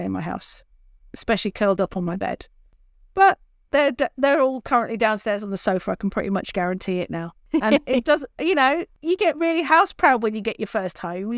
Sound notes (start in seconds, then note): 7.5 laughs